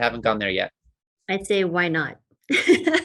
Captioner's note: laughs